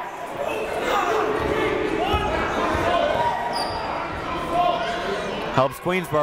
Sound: crowd talking; coaches yelling

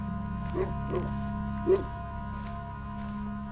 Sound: footsteps crunching; dog barking; gentle somber music

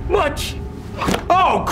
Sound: thud and dies

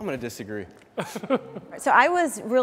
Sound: laughs loudly

